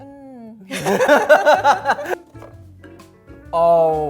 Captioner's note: laughing